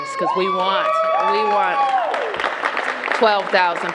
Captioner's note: cheers and applause